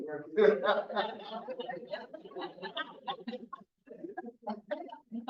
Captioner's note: audience laughing